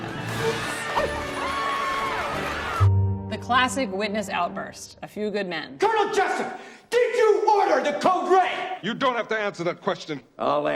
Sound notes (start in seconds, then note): 0.2 triumphant music; 1.7 crowd cheering